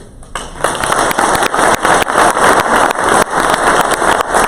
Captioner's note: crowd applause